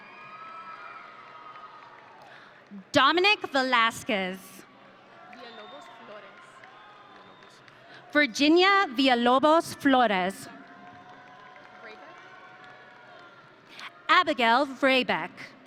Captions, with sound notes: (audience cheering) Dominic Velasquez. (audience cheering) Virginia Villalobos Flores. (audience cheering) Abigail Vrabec.